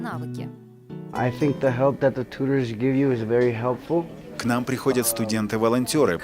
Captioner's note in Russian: английская речь